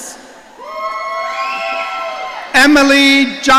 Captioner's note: audience cheering